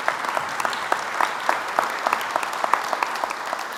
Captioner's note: applause